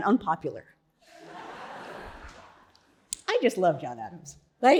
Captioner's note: audience laughing